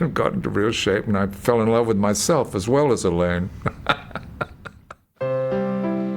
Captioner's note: laughs; serene piano music